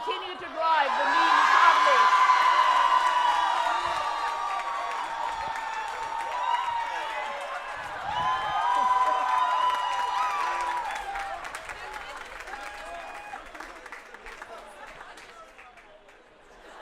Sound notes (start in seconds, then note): 4.5 cheering; 8.5 cheering and Applause; 8.5 laughter